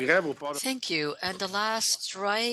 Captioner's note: speaking French